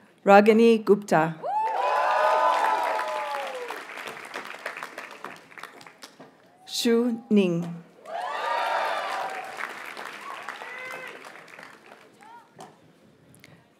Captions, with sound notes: Ragini Gupta. (audience cheers and applauds) Hsu Ning. (audience cheers and applauds)